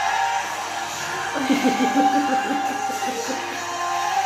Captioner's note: hysterical laughing, part 5